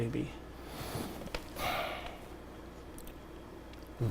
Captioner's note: sighs